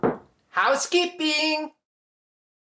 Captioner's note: knock knock knock